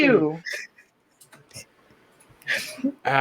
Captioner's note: laughter